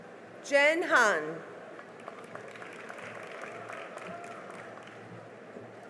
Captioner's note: cheering and applause